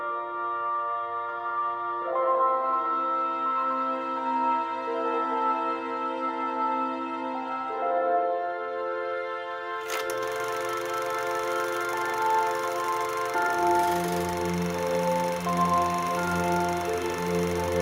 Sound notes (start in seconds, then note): 9.7 sound of running projector